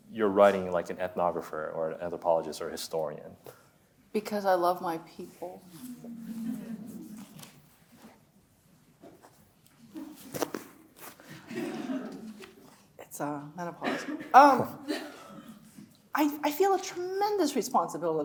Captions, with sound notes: your writing like an ethnographer or an anthropologist or a historian? - Because I love my people. (audience chattering) (audience laughs) It's menopause, I feel a tremendous responsibility